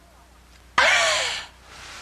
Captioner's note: breathing